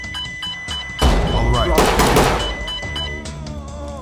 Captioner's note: alarm sounds; stinger grenade explodes; shots fired